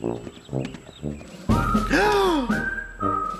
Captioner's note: gasps